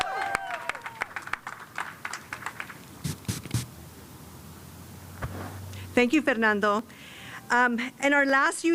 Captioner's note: cheers and applause